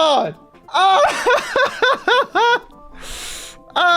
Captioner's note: laughs